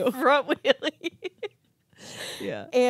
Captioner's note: giggling